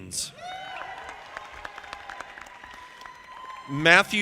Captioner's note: audience applauding